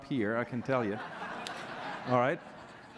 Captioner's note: laughter